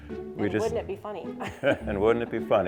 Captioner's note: laughs